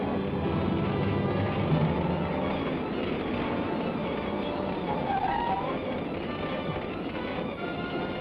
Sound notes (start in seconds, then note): 4.9 tires squeal